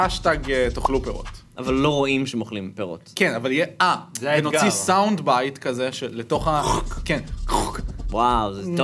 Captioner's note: sound of eating